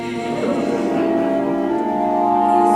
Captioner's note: collective shudders